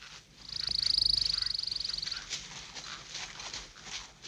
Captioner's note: birds calling